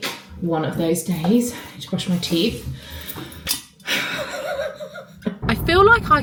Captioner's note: chuckling